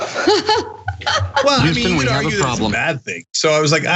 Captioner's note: laugh